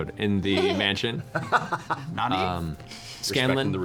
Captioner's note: laughs